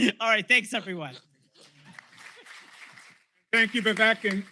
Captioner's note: applause